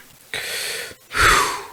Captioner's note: sigh